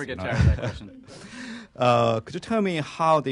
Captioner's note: laughter